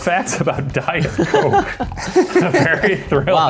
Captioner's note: laughing